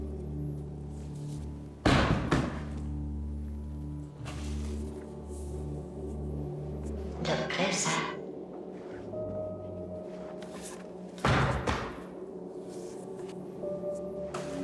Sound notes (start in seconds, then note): 1.8 book thuds; 4.5 ominous music; 11.1 book thuds